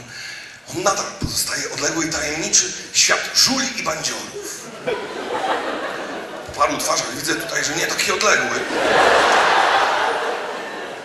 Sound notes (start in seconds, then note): 4.3 laughter; 9.0 audience laughs